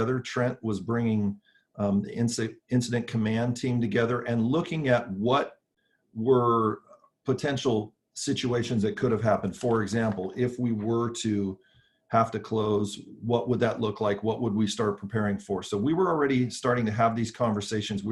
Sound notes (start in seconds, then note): none